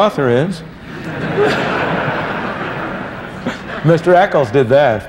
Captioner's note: laughter